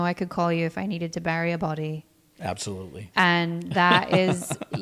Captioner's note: laughs